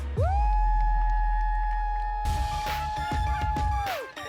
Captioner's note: audience cheering